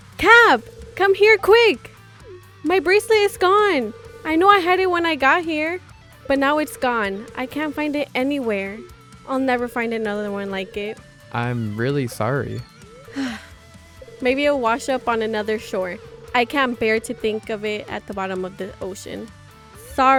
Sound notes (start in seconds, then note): 13.1 sigh